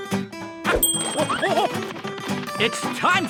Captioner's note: buoyant music; bell dings